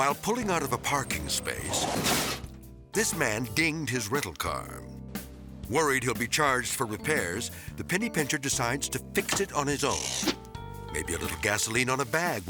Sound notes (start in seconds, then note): 2.1 transition crashes